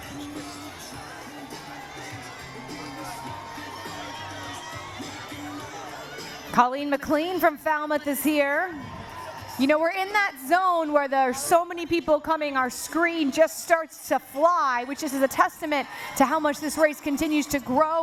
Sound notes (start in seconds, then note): 0.0 cheering